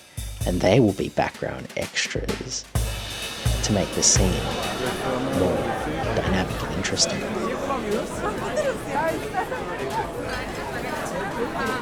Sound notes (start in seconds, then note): 3.0 ambience of restaurant chatter; 7.7 loud chatter